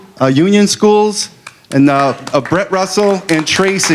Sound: applause

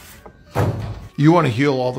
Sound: vegetables thudding

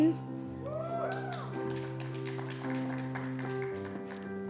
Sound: applause

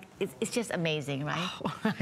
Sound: laughter

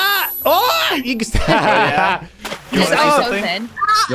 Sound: laughter

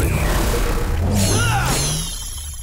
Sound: grunting

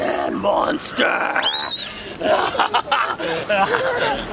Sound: screams

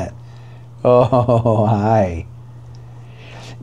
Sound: chuckling

